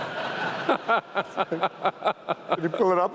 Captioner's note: laughs